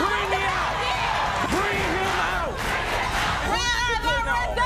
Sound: crowd chanting

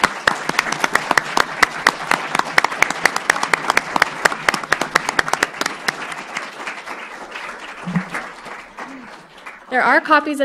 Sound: applause

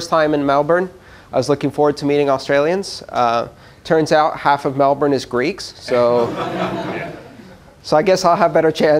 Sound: laughter

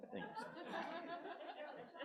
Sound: laughter

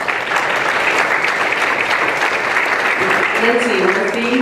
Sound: applause

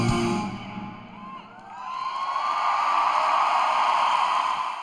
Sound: applause

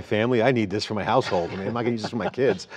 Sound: laughter

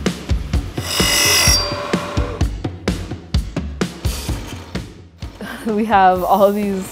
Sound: machine buzzing

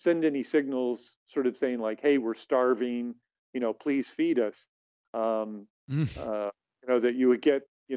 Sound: chuckles

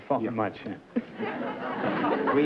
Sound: laughter

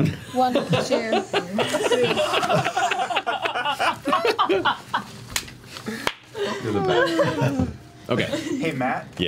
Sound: all laugh

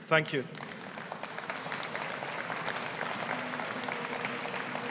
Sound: audience applauding

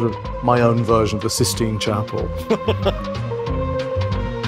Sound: laughs

